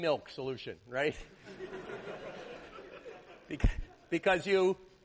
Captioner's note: laughter